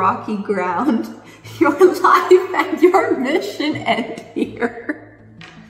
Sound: laughs

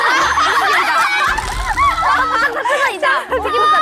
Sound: falls down laughing

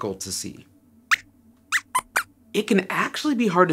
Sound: squeaks squeaks

